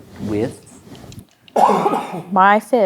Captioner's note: coughs